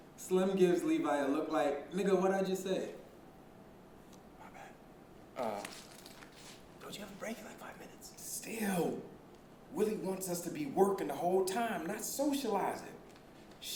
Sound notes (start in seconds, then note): 4.8 whispering